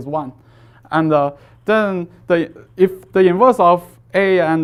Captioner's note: faintly speaking